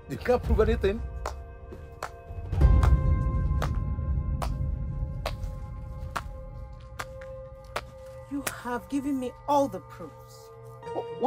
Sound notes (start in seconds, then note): 2.0 clapping